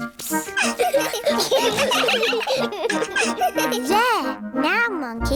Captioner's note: all giggling